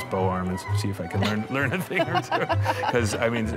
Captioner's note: laughs